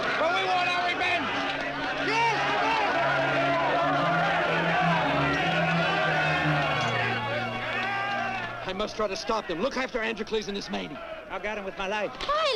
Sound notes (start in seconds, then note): 3.0 men shouting; 5.0 dramatic orchestral music